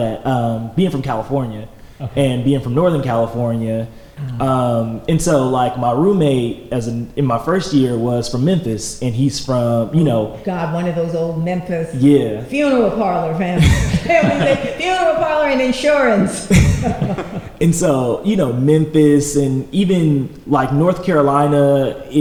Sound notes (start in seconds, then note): 13.5 laughter